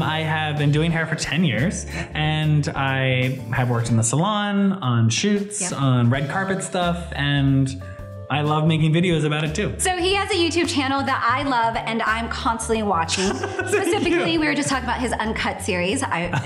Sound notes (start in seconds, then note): 13.1 laughter